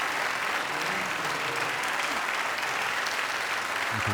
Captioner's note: applause